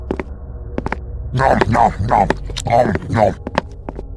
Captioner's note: Heavy eats his sandwich